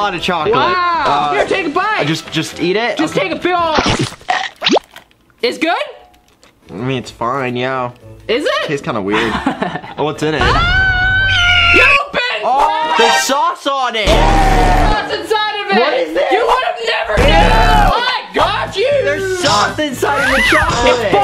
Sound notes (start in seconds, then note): 4.4 sound effects; 10.9 yelling; 14.1 ahhhh!